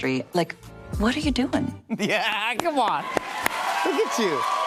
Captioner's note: cheers and applause